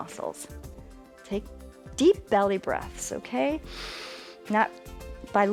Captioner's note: inhales